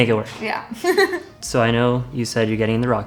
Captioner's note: laughing